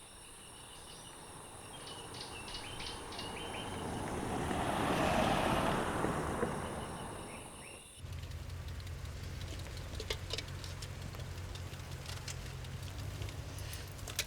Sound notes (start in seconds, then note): 0.3 truck rumbling; 8.1 engine rumbling